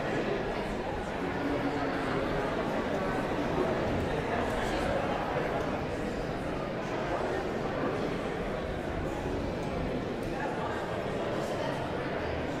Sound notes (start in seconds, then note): 5.6 audience chattering continues